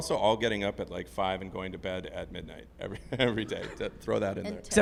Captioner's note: laugh